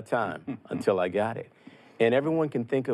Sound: chuckles

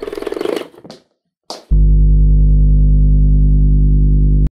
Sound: film reel flapping; smacking; low electronic humming

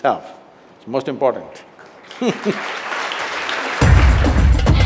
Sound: applause; laughs

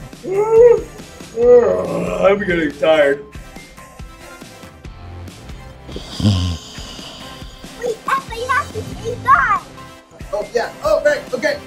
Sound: yawns; snores

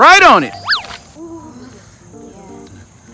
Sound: swish

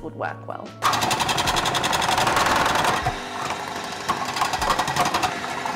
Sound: food processor rattles

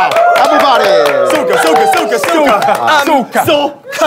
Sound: everyone cheering

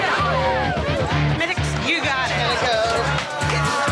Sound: crowd chattering

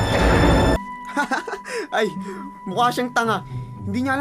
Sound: Spaydi laughs

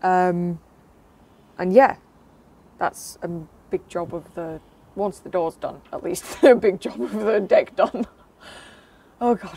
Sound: laughs

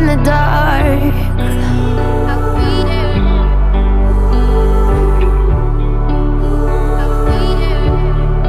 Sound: oooh, oooh, oooh

